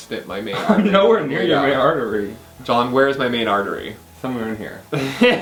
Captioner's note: laughs